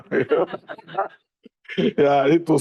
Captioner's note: all laughing